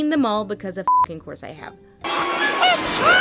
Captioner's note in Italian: beep